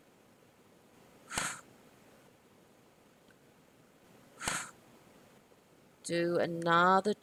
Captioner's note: sounds of exhalations